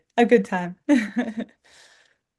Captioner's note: chuckles